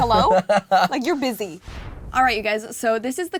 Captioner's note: laughs